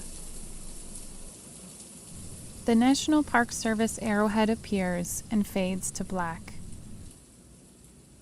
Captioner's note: rain sounds fade